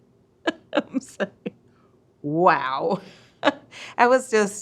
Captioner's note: laughs